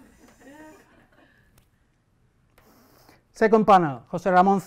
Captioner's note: audience laughter